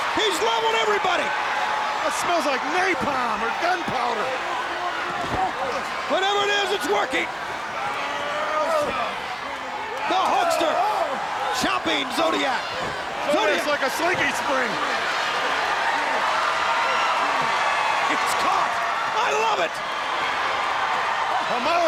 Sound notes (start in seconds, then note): 7.8 wrestlers grunting; 14.9 crowd screaming